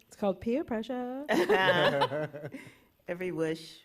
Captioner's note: laughter